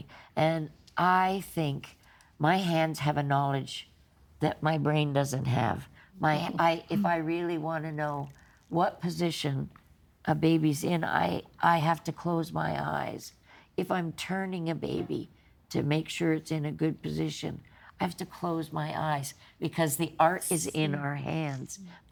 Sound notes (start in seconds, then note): none